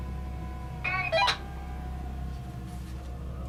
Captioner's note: baby cries on the walkie talkie